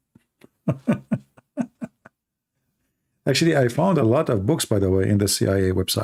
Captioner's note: Ketawa